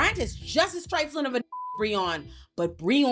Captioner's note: beep